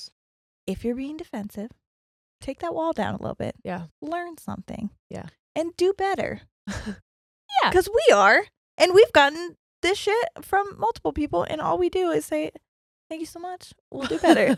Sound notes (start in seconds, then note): 6.3 chuckles; 6.7 high pitched voice